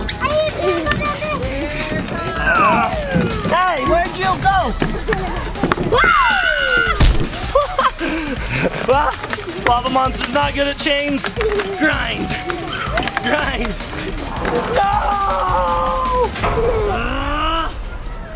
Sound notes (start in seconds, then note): 0.0 yells; 5.1 dad screams and laughs; 16.3 dad grunts